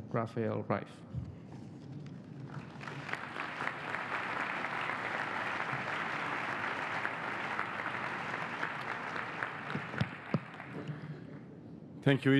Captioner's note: applause